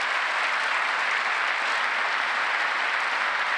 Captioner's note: applause